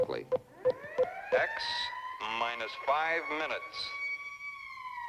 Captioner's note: alarm blaring